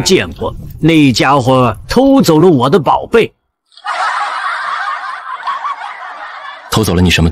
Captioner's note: uproarious laughter